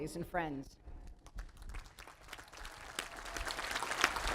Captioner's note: applause